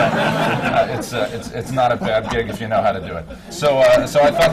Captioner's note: laughter